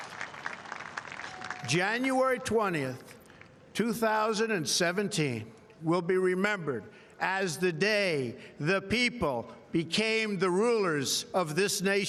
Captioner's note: applause